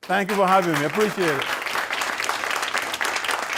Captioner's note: applause